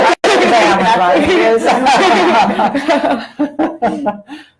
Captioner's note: laughter